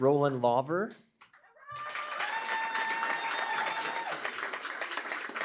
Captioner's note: cheering, applause